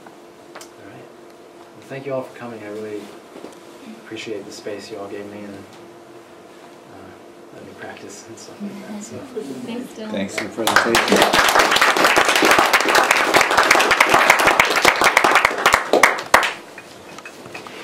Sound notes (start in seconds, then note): 10.3 applause